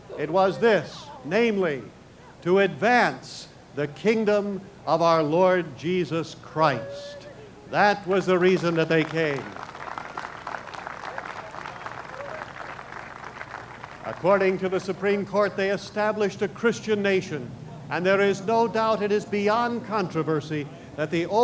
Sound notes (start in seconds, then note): 8.5 applause